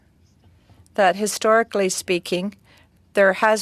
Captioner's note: speaking French